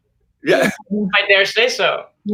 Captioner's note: laughs